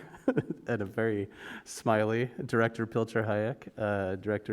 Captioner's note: laugh